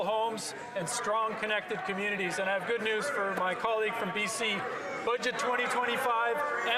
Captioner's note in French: voix de l'interprète